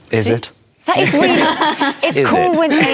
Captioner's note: laughter